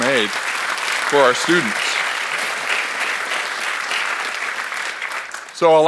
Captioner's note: audience applauds